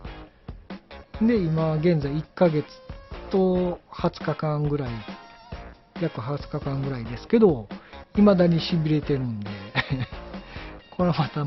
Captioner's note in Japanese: 笑い